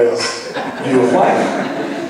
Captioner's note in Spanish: laughs